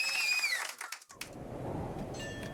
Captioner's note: audience applause